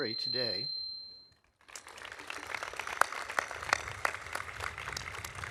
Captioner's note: audience applauding